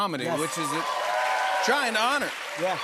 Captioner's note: cheers and applause